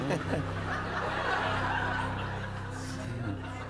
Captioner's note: chuckles; laughter